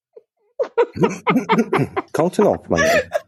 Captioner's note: laugh